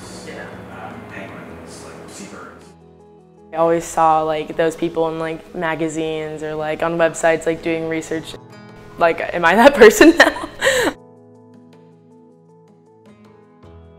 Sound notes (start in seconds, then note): 10.1 laughs; 11.3 soft music